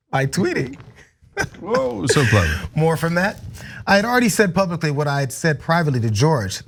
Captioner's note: laugh